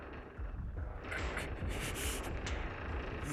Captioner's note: straining